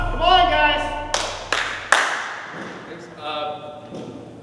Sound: clapping

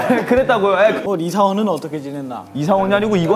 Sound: ahem

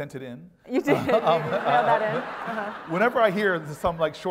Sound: laugh

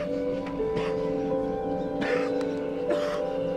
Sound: coughs

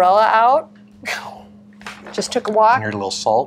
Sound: chuckles

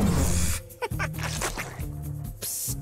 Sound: laughing

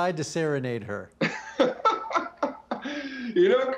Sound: laughs

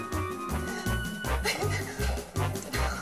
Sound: giggles

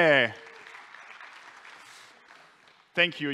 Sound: applause

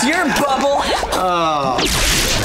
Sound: groaning

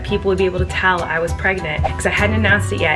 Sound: whooshing

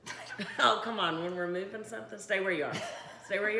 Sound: laughing

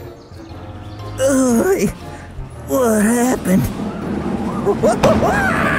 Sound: grunts; Rowdy screams

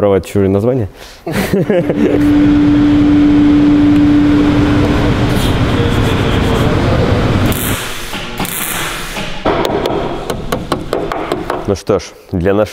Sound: construction sounds

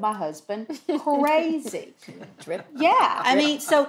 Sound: laughs

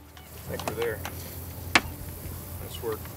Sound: paddles clacking

